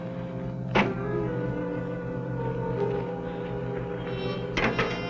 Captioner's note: car door banging; dramatic music